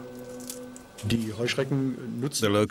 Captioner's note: speaking German